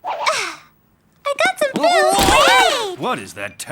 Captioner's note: Willy yelping; Willy shouting